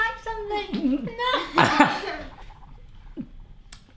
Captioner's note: laughing